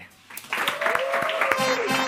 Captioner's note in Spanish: Aplausos